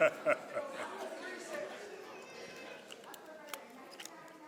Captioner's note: laughs